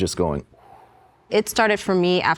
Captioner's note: Thready wooshes